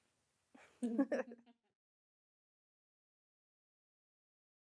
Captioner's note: laughs